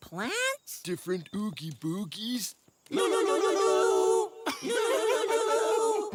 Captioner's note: giggling